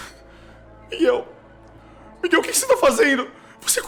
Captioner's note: weeping